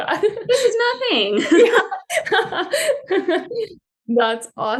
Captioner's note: laughter